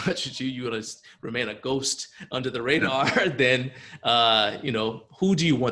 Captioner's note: chuckles